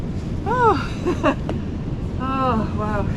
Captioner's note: chuckles